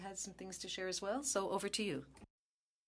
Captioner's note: speaking French